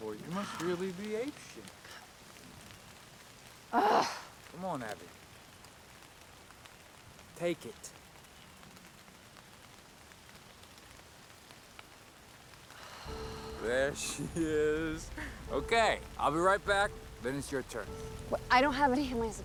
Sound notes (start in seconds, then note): 3.7 Abigail groans; 13.0 slow paced music